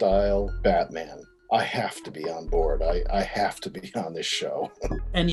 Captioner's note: chuckles